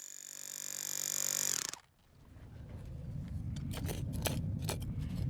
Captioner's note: power tool noise